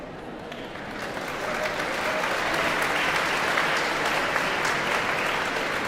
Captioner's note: audience applauding and cheering